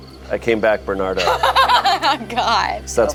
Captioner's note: laughs